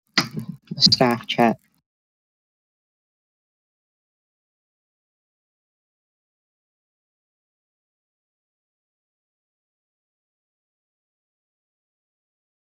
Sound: silence

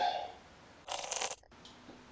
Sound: Distorted Roblox bloxy cola sound effect

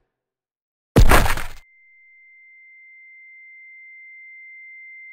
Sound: high-pitched ringing sound

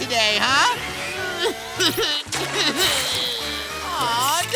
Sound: whimpering

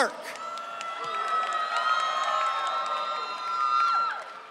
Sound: audience cheering

